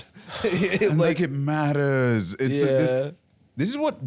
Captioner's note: laughs